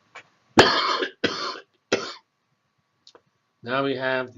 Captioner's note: cough